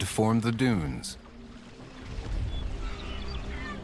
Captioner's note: birds chirping